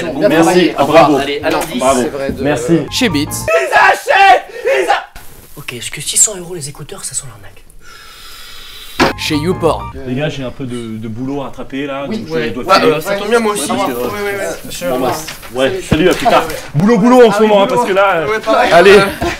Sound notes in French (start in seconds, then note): none